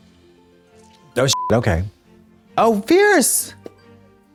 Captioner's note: beep